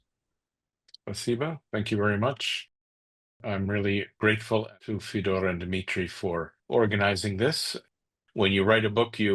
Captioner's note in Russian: по-русски